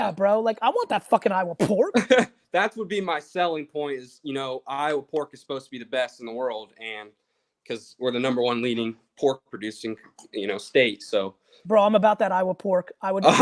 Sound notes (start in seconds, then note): 1.8 laughs; 13.2 laughs